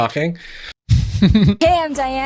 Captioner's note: laughs